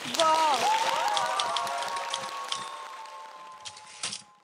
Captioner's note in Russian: Аплодисменты